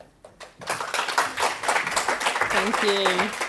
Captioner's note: audience applauding